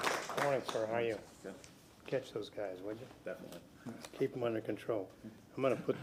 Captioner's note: applause